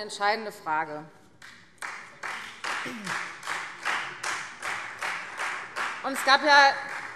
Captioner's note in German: Beifall Freie Demokraten